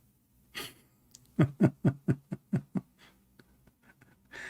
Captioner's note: Ketawa